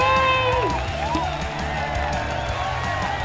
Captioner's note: applause